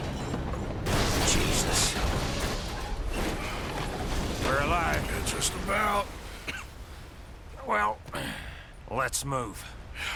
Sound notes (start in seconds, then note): 6.4 coughs